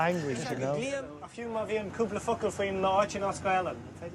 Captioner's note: speaking Gaelic